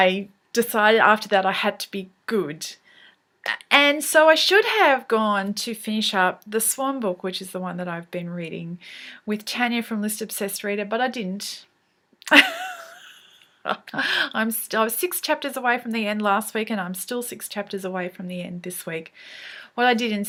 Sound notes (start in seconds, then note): 12.3 laughs